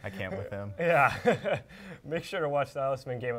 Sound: laugh

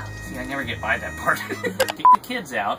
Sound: laughs

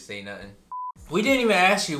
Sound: electronic beep

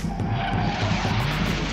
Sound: jet engine whooshing

